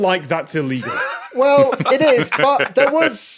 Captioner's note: laugh